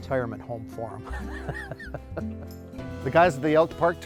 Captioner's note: laughs